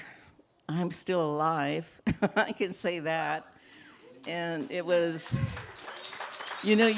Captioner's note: applause